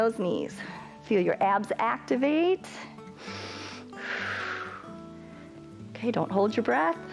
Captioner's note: inhales and exhales